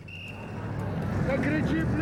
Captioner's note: whistle blowing